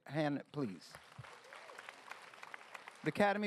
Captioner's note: applause